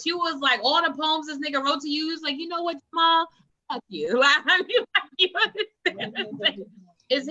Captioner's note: laughs